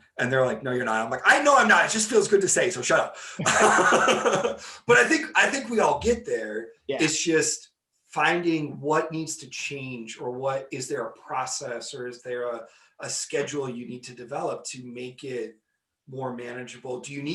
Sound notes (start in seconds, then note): 3.3 laughing